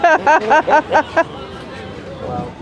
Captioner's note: laughter